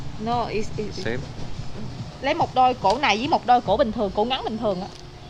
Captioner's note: speaking Vietnamese